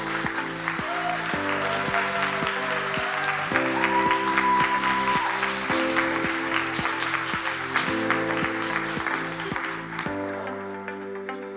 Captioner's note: cheering and applause